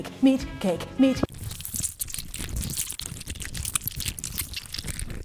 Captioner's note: meat squishes